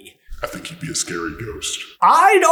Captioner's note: echoey and concerned